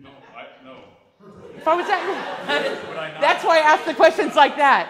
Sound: class laughs

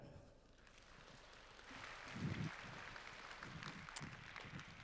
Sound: applause

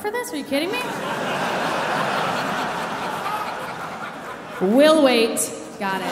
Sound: audience laughing

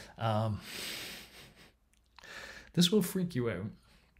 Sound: snickers

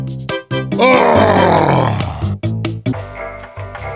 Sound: deep Sigh

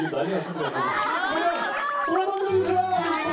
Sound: laughing

